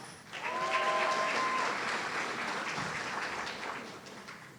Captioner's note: audience cheering